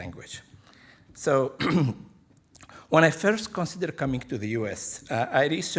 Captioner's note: clears throat